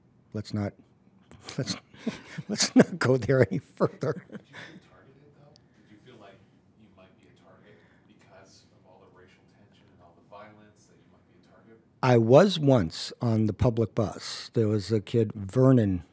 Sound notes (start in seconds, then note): 1.4 laughs